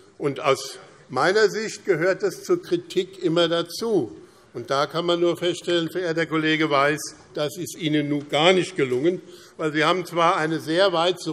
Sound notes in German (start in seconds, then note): none